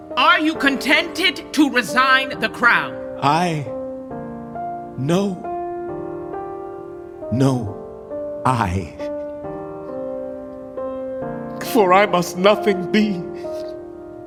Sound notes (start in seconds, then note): none